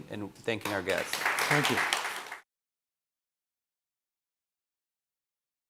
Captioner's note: clapping